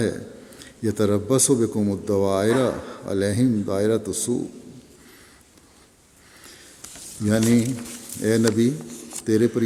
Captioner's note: Arabic